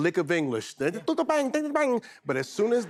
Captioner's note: speaking pretend language